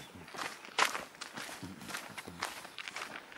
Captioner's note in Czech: kroky, pozpěvování